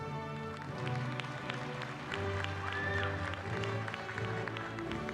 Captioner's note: applause